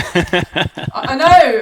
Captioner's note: laughing